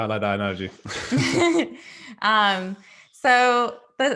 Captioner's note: both laughing